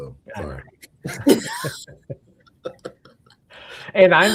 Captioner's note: laughs